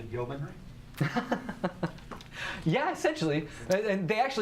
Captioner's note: chuckles